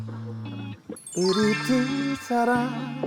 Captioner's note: Old habits die hard sound effect